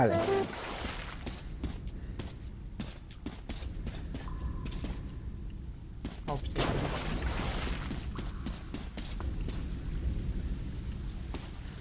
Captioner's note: silence with a few splashes and footsteps